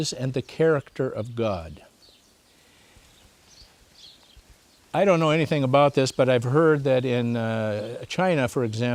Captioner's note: birds chirping